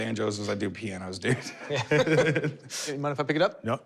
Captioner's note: laughter